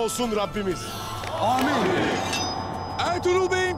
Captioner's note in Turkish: Hep bir ağızdan; El vurma sesleri